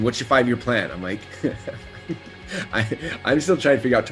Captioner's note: laughs